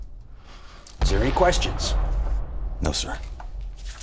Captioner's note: bombs rumbling